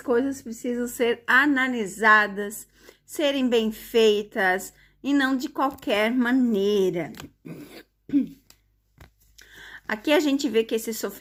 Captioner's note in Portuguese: limpando a garganta